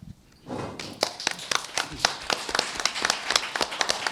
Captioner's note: applause